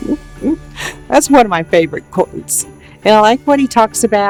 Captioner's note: laughing